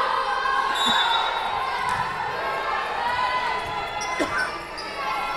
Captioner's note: whistle blowing